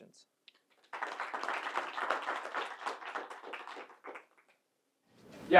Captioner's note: audience applauding